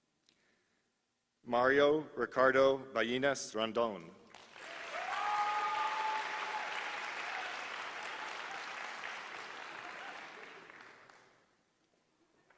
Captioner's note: applause